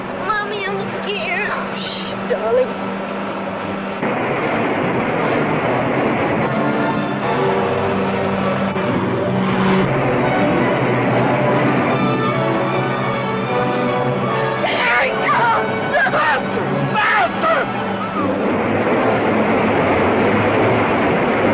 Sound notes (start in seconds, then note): 0.0 car engine revving; 4.0 water splashing; 8.5 car engine revving; 9.9 water splashing; 14.6 cries; 16.9 suspenseful music continues; 17.2 water splashing